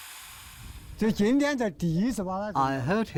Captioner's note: speaking in foreign language